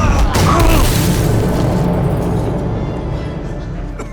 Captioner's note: fists thudding; assailant grunts; glass shatters; dramatic violin music